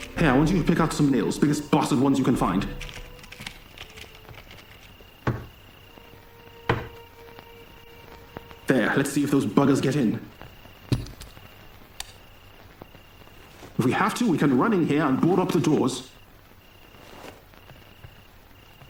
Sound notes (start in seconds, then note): 2.5 nail box rattling; 5.2 hammer thudding